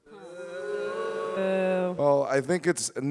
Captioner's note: audience booing